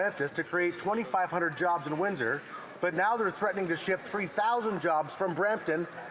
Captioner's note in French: voix de l'interprète